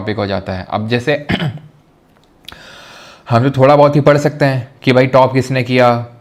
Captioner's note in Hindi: गला साफ़ करने की आवाज़